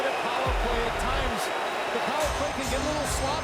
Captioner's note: crowd noise